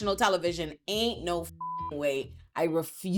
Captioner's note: beep